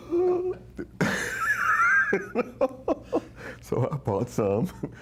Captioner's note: laughing